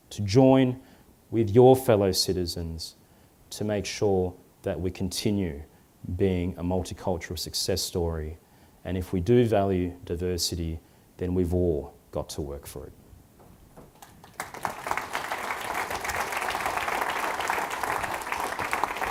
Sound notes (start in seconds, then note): 13.9 applause